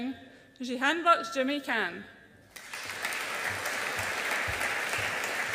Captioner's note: audience applauds